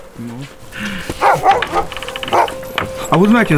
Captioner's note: dog barking